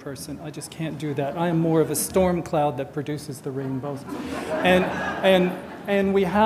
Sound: audience laughter

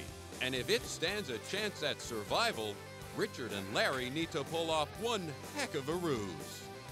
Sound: voiceover

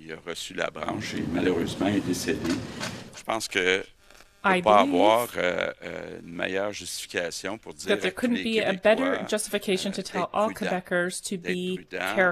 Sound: speaking french

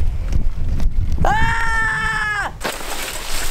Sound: scream

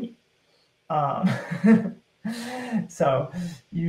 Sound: laughing

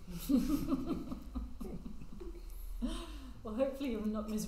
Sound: all laughing

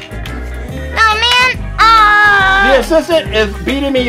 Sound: groans

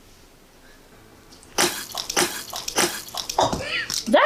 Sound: spits

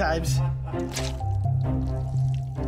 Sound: crunching

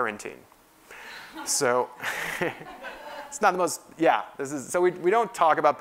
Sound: laugh

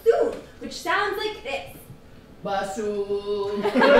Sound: laughter

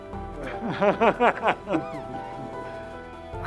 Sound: laughter

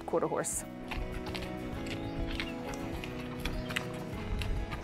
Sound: hooves clacking

